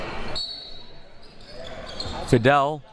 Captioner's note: whistle blowing